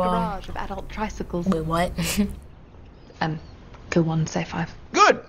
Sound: chuckles

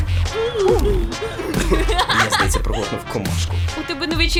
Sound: coughs; laughs

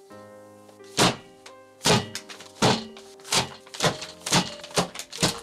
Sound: reams of paper thumping

